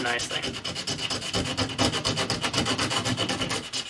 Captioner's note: sanding